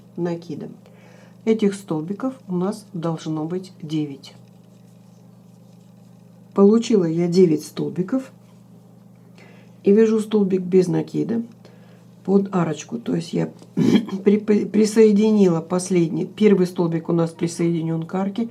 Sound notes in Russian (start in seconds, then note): 13.7 откашливается